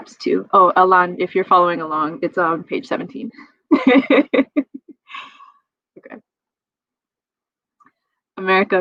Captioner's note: laughs